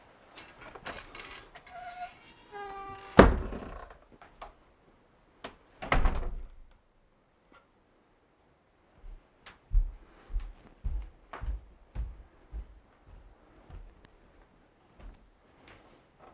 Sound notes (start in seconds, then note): 2.4 door bangs; 9.2 feet thudding